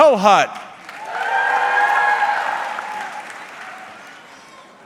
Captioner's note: audience cheering